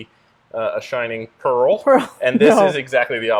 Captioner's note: laughs